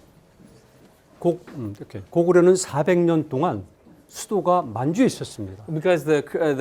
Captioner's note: speaking in Korean